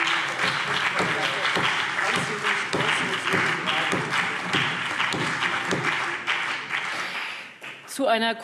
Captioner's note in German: Beifall CDU und BÜNDNIS 90/DIE GRÜNEN - Zuruf AfD